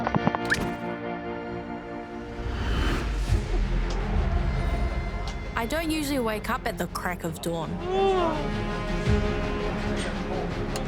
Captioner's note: whoosh!